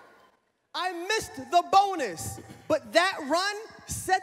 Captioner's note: none